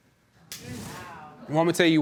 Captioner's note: audience exclaims